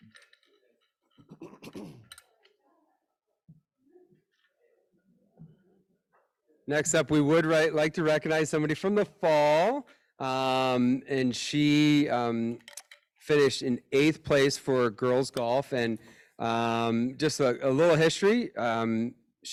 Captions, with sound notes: (people chattering and laughing) >>Next up we would write like to recognize somebody from the fall, and she finished in eighth place for girls' golf. And just a little history,